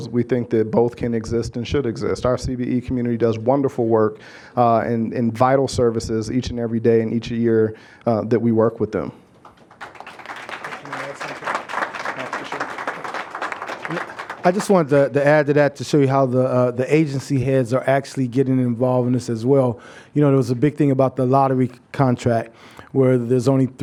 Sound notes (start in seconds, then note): 9.4 applause